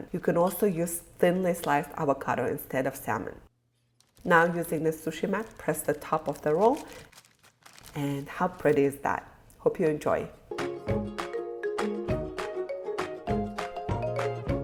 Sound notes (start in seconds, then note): 7.0 plastic crackling; 10.6 whimsical music